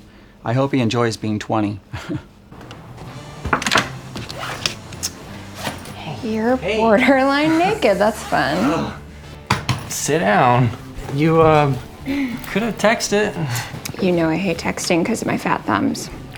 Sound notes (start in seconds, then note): 2.6 knocking